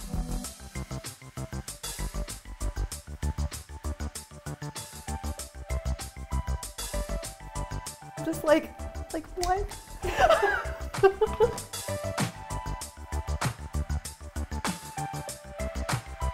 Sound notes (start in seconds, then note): 0.1 upbeat electronic music; 10.0 giggling; 12.2 upbeat electronic music